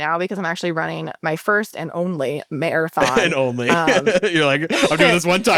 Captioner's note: laughs